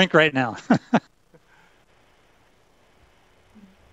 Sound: laughs

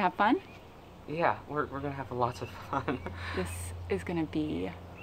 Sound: laughs

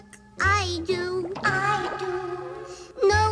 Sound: echoes

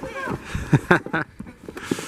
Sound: he-ha-ha-hm

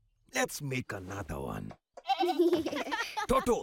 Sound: bleating, laughing

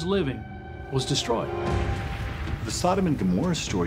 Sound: crackling flames

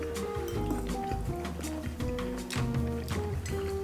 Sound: chewing

